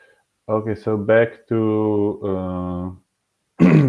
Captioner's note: clearing throat